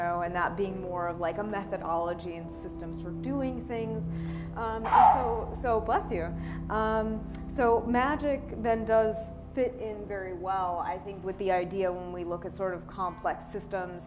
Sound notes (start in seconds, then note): 4.8 sneeze